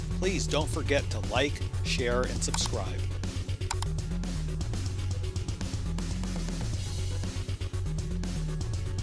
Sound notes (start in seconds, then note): 3.6 cursor clicking; 4.5 upbeat rock music